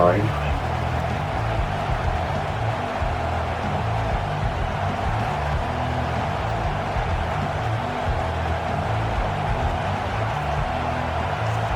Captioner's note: crowd Noises